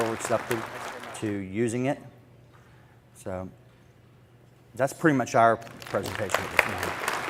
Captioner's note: applause